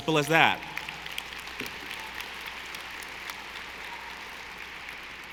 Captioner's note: audience applauding